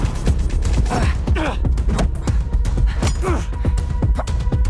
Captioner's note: grunting